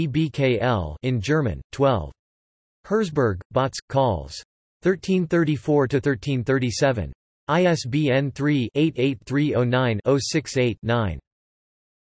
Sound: in German

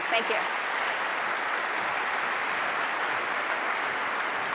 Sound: applause

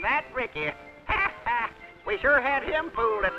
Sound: laughs

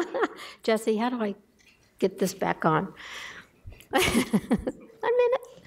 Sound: laughs; laughs

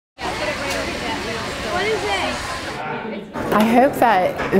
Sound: students talking

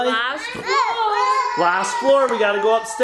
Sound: kids yelling

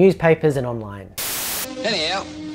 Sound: static hisses

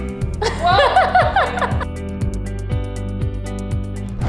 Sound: laughing

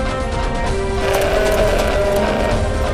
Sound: bull roaring

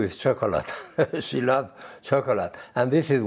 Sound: laughs

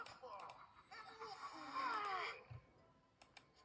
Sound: Aladdin and Morgiana exclaimed

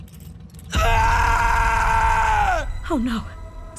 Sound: screaming

